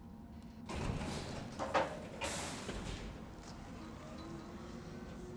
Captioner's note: elevator graunches; elevator whirring